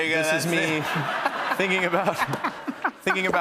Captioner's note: laughter